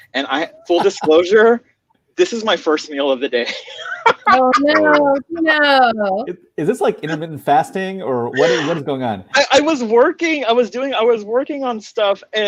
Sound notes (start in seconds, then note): 3.4 laughing